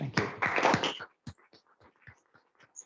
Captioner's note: applause